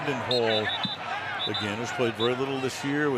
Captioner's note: whistling